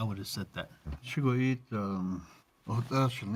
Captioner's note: speaking Navajo